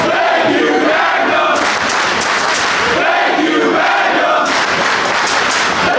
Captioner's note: clapping